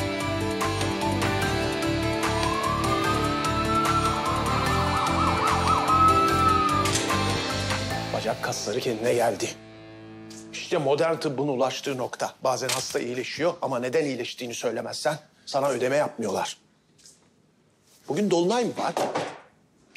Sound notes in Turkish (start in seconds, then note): 4.5 Siren çalıyor